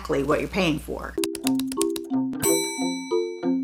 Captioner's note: typing sounds